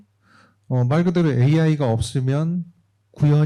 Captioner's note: speaking korean